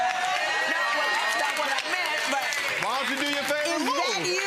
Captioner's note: audience cheering